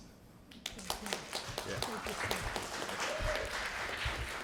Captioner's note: applause